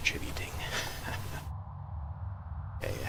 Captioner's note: laughs